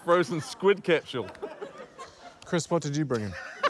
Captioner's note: laughter